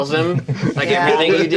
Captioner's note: Omin laughing